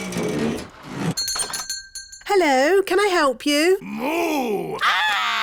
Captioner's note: shop bell rings; screams